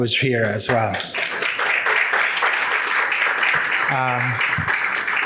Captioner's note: audience applauding